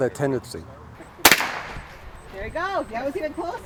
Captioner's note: guns banging